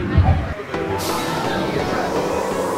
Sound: dinosaur growling; upbeat music

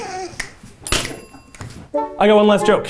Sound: sniggering; fingers snapping; bell rings

